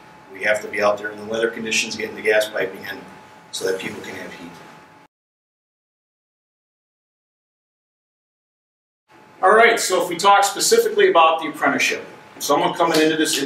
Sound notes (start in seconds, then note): 5.0 silence